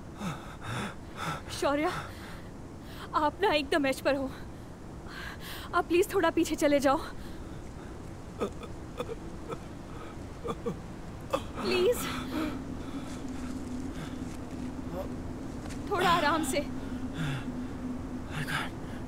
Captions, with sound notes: Shroya, you are at the edge. Please move back a bit. [Writhing in pain] Please! A bit gently… I can’t…